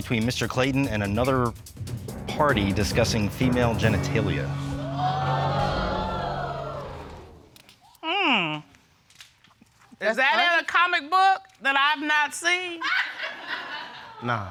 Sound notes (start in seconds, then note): 4.4 audience gasping; 12.9 audience laughing